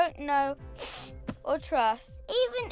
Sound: sniffle

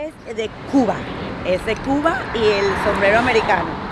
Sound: spanish spoken audio

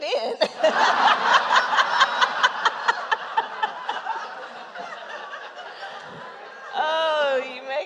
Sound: laughter

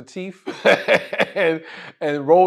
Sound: laugh

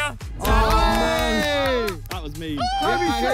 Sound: players cheer

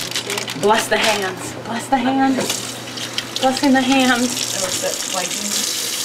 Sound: none

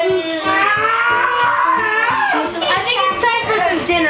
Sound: grunting

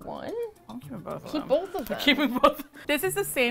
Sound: laughing

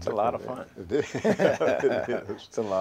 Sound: laughter

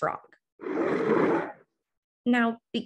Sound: roar

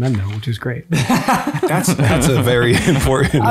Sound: chuckles

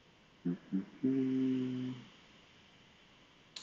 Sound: humming

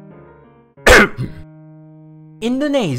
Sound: ahem

